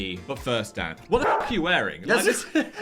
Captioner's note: dog barking; chuckling